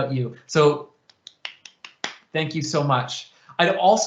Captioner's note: clapping